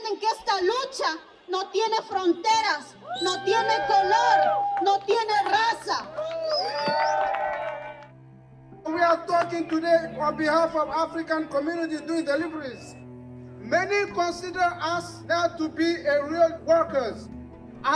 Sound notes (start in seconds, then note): 6.3 cheering